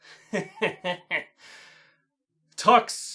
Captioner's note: fake laughs